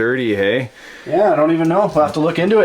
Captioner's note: voiceover